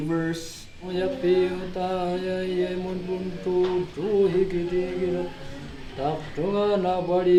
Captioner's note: chanting